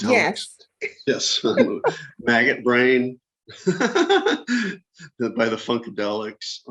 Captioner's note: laughter